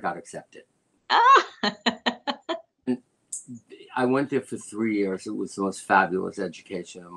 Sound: laughter

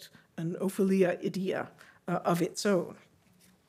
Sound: speaking Greek

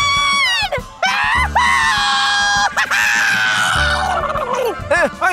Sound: fairy cheering

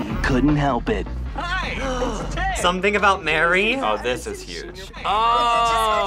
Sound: gasps

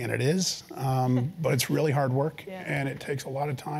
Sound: laugh

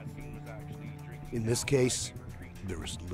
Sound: voiceover

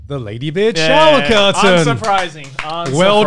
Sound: clapping

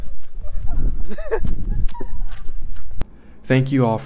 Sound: laughing

